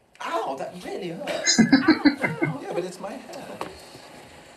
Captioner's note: chuckling